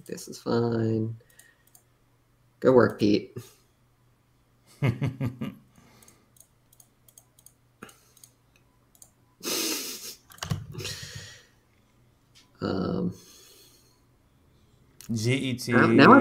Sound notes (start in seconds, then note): 9.1 chuckles